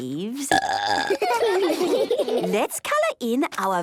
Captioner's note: burping; children giggling